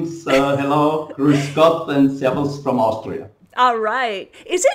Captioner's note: speaking foreign language